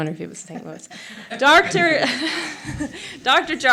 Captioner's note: laughs